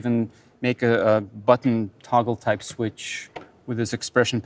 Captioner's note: foot pedal clicking